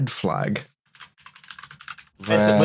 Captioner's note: keyboard clacking